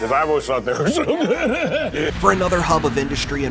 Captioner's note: laughs